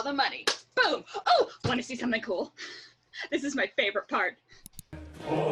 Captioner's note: clap; mouse click